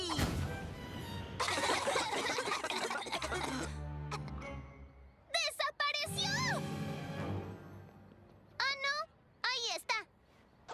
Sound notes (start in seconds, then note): 0.2 poof; 1.4 coughing